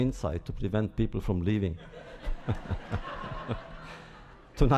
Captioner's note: laughter